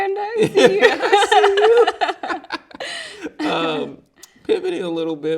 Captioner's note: both laughing